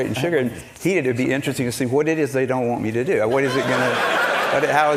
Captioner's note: laughter